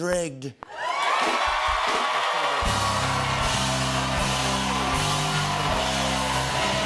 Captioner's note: cheers and applause